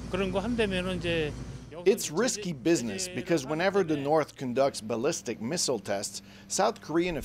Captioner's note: speaking alternate language